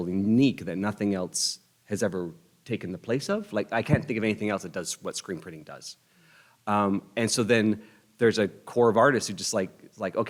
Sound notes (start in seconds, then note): none